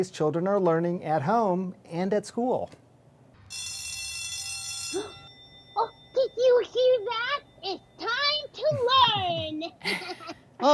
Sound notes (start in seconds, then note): 3.4 school bell rings; 5.9 gasps; 8.5 laughing